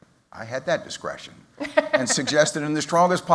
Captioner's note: laughter